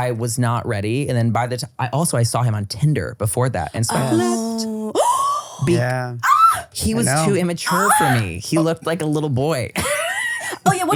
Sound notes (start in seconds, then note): 3.9 gasps; 9.8 laughs